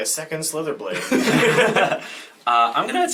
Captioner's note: all laugh